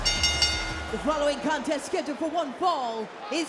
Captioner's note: bell rings